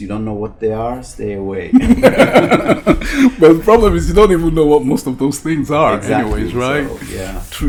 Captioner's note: both laugh